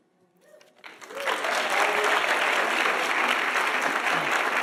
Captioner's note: audience applauding